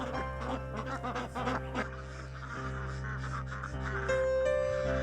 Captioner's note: chicken clucking